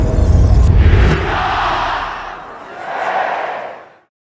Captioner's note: crowd